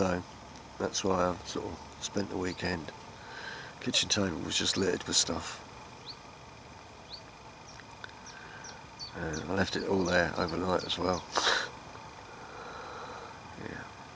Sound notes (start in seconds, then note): 11.3 laughs